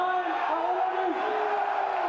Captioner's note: crowd chatter